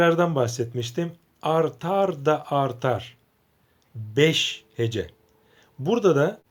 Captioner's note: in Turkish